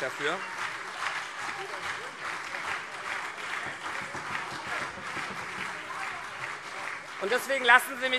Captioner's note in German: Beifall CDU und SPD